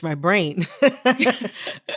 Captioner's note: laughter